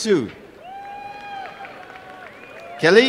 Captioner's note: applause and cheering